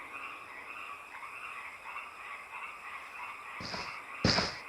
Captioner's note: crickets chirping; footsteps thudding